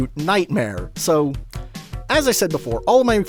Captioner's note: lip smack